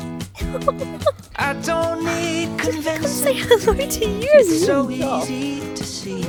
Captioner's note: laughs